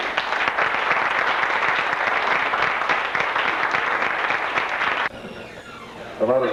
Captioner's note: applause